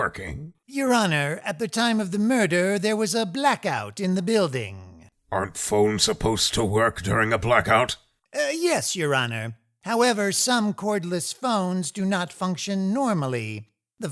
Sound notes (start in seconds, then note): none